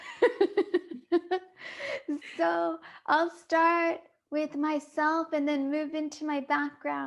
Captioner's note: laughing